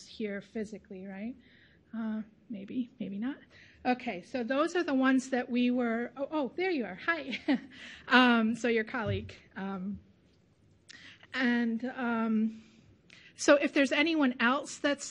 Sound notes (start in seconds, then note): 7.9 laughs